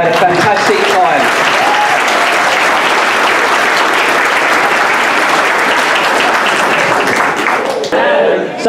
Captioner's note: applause